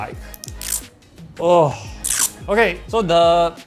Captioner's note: peels plastic off